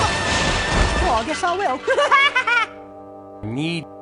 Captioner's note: cute giggle